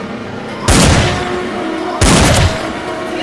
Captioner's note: ominous music; zombies growling; gun banging